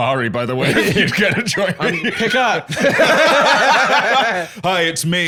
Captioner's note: both laughing